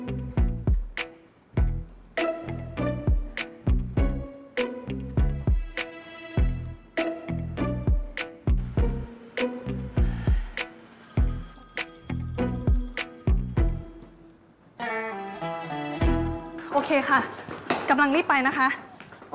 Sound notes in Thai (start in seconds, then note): 11.0 เสียงโทรศัพท์